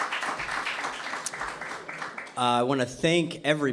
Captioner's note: applause